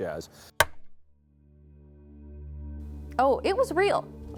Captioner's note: clapperboard thudding